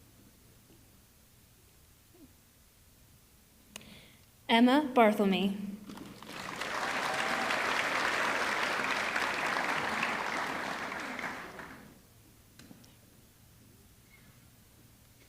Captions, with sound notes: Emma Barthelme, (audience clapping) (audience cheering)